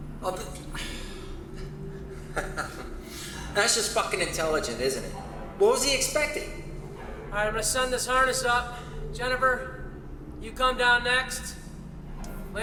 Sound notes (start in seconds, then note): 1.8 risas